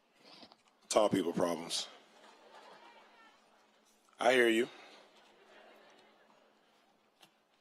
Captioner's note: applause